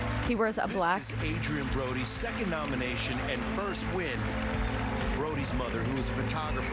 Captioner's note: applause